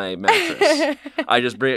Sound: laughs

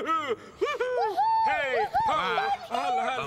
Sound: pigeons continue whooping

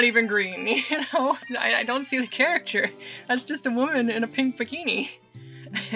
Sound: laughing

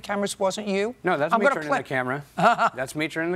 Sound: chuckles

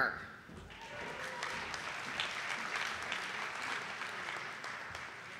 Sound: audience applauding

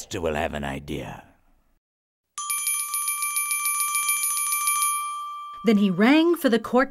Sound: bell rings

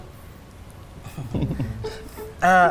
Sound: laughing

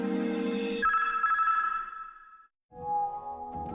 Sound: signals beeping

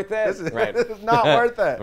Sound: laughs

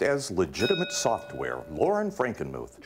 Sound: ding

